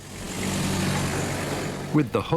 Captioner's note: car revving